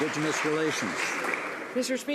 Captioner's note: some Applause